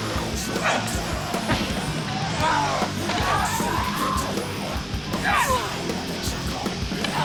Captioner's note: people groaning; punches thudding